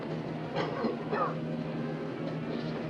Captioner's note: coughs